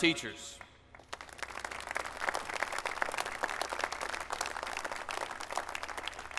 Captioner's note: applause